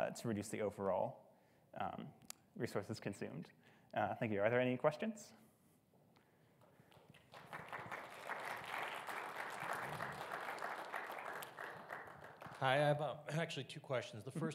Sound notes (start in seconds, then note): 6.8 audience clapping